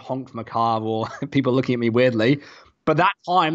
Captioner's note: chuckles